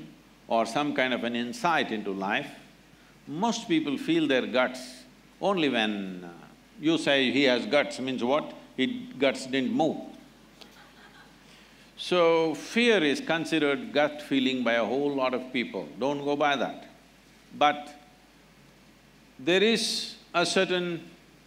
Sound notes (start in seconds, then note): 10.6 few Laugh